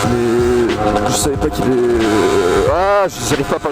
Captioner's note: stuttering